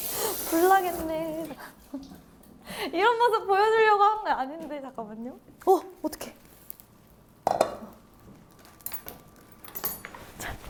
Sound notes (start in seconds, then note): 0.0 steaming, steaming